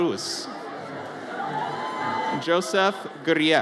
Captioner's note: audience cheers